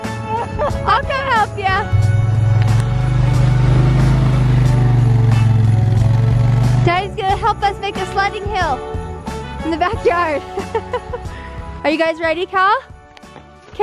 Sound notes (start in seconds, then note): 3.6 engine rumbling